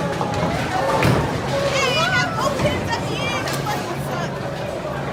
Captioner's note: sarcastically